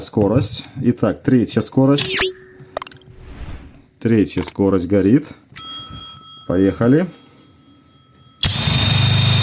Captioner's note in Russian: колокольчик